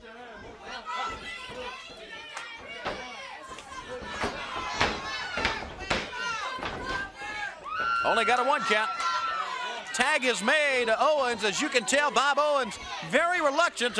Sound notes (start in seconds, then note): 3.0 crowd chatter